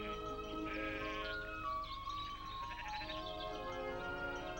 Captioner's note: sheep bleating